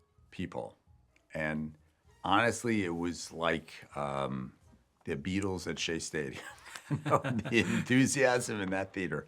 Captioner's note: laughs